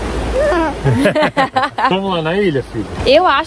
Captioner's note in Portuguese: risos